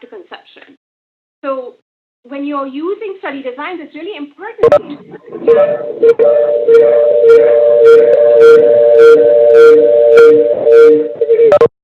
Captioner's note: audio feedback